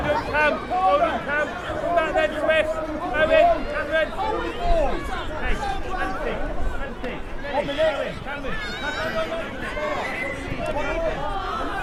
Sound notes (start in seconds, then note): 0.0 excited noise; 6.8 general chatter